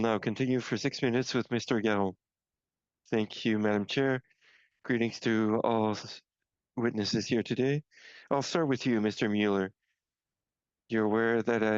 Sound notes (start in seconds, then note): 3.3 speaking French